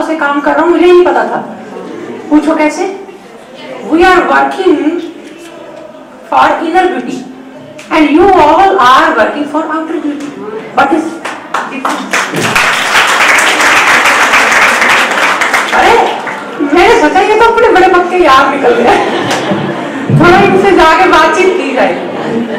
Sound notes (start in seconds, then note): 11.2 audience claps